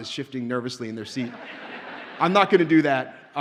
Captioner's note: audience laughs